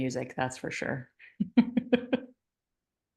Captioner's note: chuckles